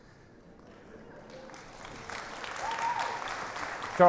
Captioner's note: applause